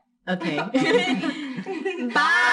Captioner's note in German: alle lachen